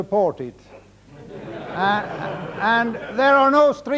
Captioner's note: audience laughing